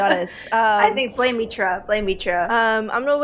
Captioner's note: laughs